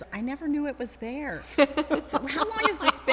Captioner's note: laughing